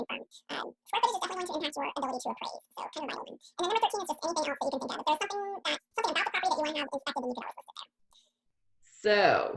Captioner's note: more fast talking